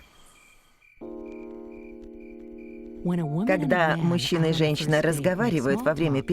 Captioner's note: crickets chirping